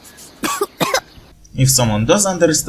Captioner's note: cough, cough